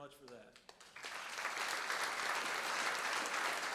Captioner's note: applause